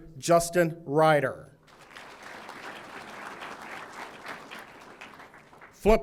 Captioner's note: audience applauding